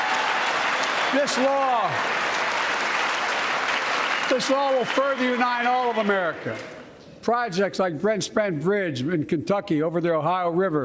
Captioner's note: applause